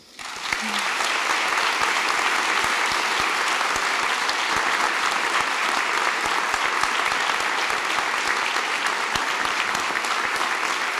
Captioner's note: applause